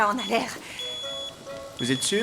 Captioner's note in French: bip du détecteur de fumée